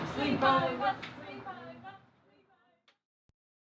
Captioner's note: Ryan and Abi chant